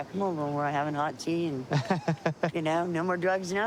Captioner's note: laughs